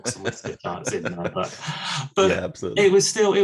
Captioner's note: laughs